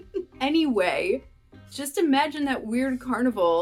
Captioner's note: laughter